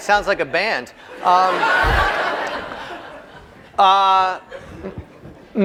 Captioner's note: laughter